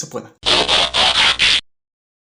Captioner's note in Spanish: Sonido de transformación; Silencio